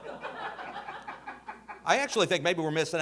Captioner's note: audience laughing